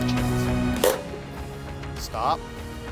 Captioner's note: wrench creaking